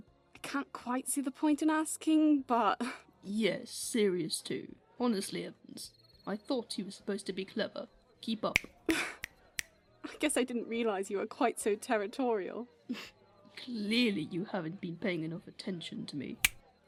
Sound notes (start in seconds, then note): 8.5 he snaps his fingers; 8.9 Lily laughs